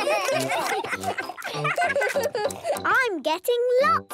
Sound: giggling, chewing

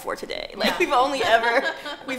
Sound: laughing

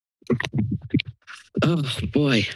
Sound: mic thumps

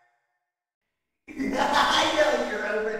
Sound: laugh

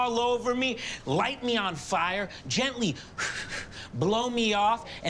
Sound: exhales sharply

